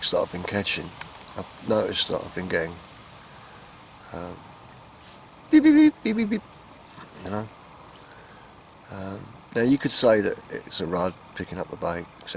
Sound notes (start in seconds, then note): 5.6 beep beep beep, beep beep beep